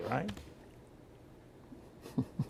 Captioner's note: laughter